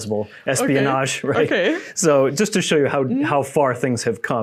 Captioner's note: laughing